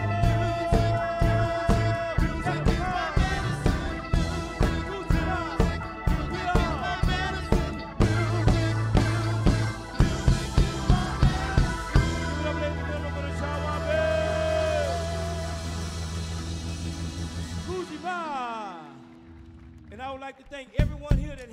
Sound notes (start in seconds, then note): 16.5 music concludes; 17.5 audience cheering; 17.8 speaks in foreign language